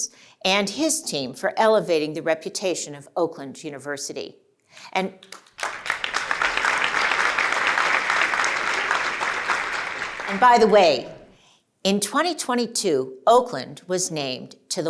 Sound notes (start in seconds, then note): 5.2 applause